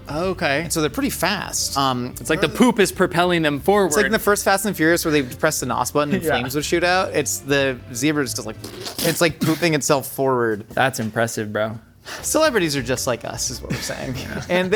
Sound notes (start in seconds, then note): 8.5 imitate squelching; 13.6 laughing